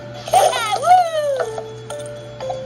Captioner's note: Maria cheers